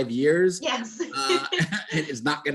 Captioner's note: chuckles